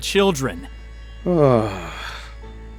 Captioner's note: sighs